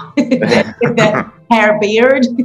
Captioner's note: laughing